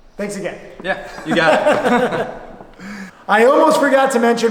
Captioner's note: laughter